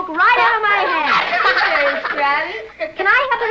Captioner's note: giggling